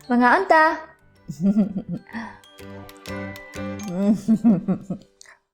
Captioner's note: chuckles